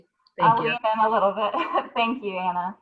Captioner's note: chuckles